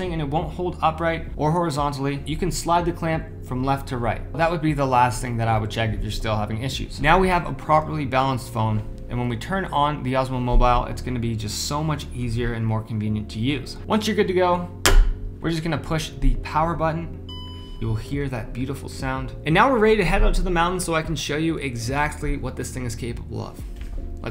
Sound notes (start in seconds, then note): 17.2 beeping